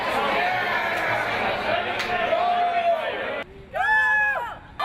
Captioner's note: people Cheering